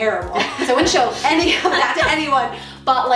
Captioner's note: laughing